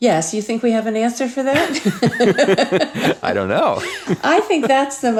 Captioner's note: laughs